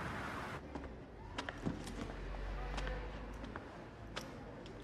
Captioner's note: footsteps